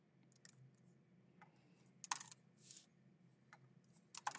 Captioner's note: keyboard clacking